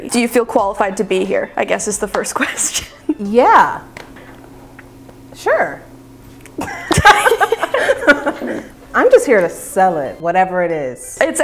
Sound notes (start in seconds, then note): 2.4 laughing; 6.6 laughing